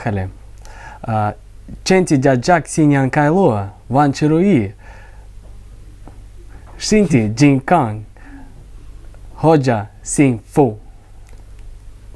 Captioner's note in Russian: На китайском языке